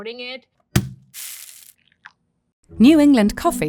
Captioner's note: bag thudding and coffee pouring